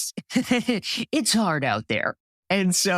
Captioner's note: laugh